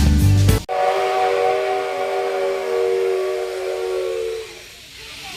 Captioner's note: whistle